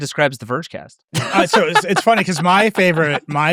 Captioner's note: laughing